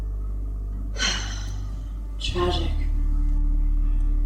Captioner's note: sigh